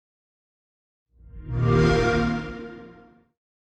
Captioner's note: xbox sound